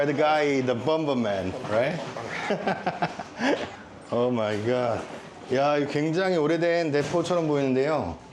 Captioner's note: laughter